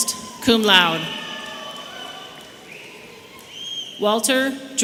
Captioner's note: audience cheering